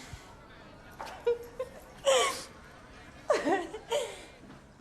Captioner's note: laughing